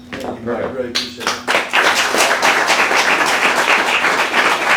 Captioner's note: audience applauds